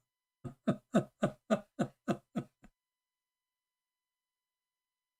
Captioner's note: Ketawa